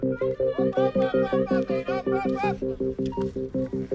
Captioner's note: cheering